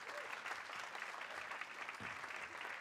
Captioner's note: audience clapping